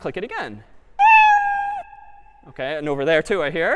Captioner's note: meow